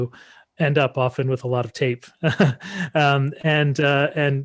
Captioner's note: laughing